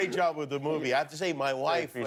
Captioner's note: laughter